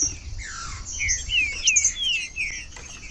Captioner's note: trinca ferro cantando